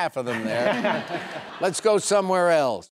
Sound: joyful laughing

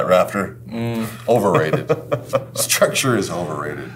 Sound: laughs

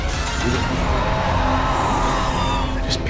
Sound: screams

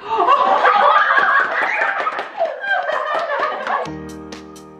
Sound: everyone cheers and applauds; bright music

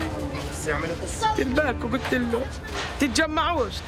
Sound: speaking Arabic

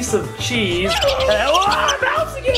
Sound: squeaky mouse noise; screams

